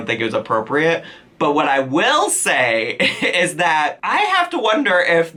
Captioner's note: chuckles